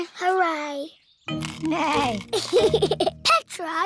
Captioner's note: neighs and giggles